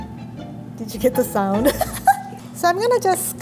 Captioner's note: laughs